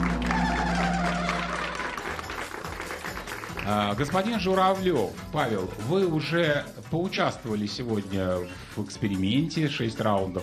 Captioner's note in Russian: аплодисменты